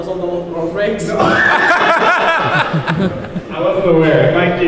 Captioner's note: laughing